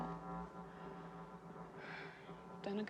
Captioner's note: sighs